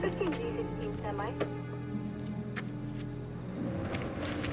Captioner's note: radio chattering